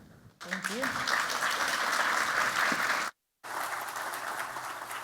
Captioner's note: applause